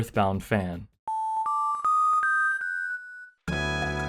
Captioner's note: Mani Mani statue sound